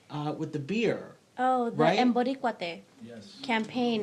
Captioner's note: speaks in foreign language